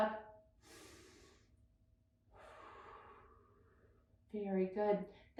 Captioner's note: breathing deeply